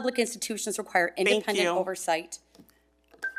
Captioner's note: timer chimes